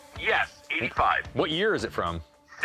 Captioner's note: on phone